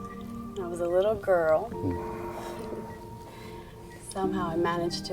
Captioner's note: chuckles